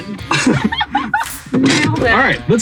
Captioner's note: chuckles